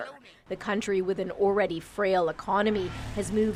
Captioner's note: speaking alternate language